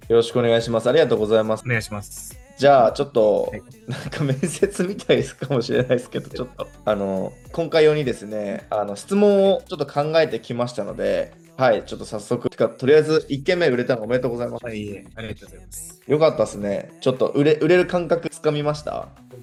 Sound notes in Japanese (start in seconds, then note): 3.8 笑い